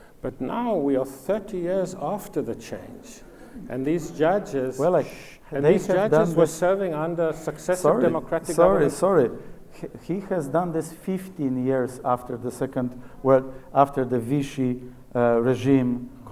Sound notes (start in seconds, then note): 4.3 audience chatters